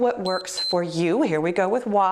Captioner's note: timer beeps